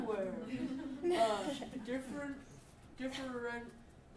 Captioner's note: audience laughing